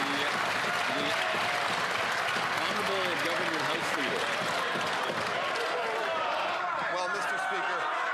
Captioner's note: some Applause